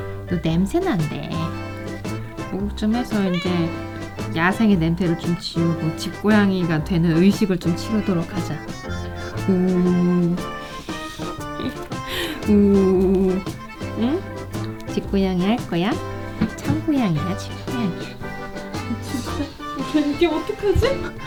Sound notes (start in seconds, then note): 10.7 laugh; 18.3 laugh